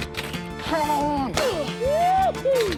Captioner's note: keys clack; grunts; keys clack